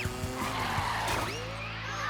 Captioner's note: tires screech